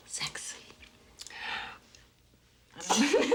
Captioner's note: gasps; both laughing